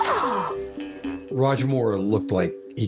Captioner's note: gasps